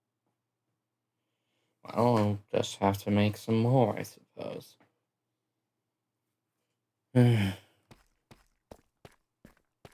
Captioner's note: sigh